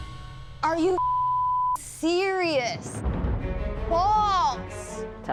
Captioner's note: beep